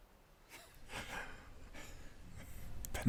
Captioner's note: laughter